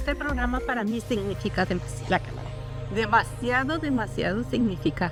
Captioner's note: speaking in Spanish